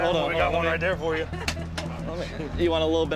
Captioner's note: laughter